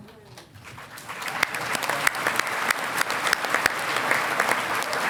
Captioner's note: audience applauding